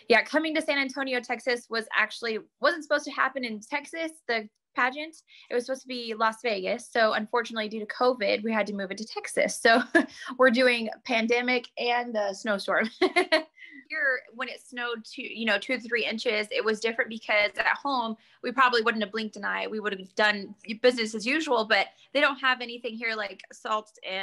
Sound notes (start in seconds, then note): 10.1 laugh